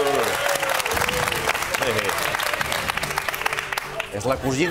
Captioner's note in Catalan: aplaudiments